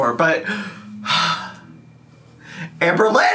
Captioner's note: sighs